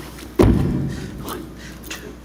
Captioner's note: hands slapping; boots and hands thudding